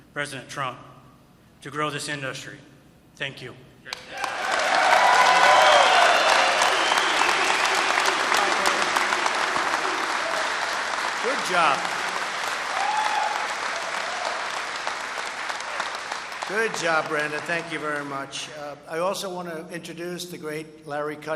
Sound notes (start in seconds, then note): 4.9 applause